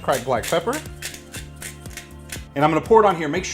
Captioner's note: pepper grinding